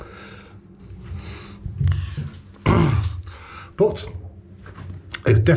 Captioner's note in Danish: rømmer halsen